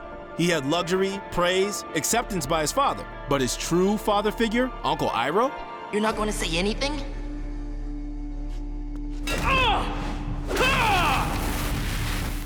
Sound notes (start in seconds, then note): 9.5 grunting